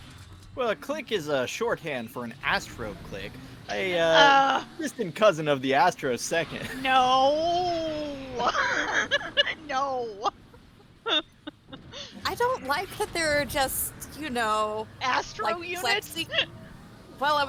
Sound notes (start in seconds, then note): 9.6 laughs; 15.2 laughs